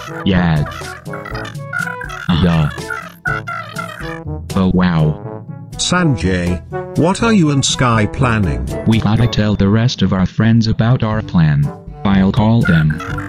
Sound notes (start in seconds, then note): 3.1 phone chatter continues